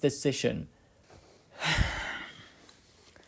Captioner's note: sigh